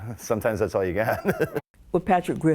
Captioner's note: laughter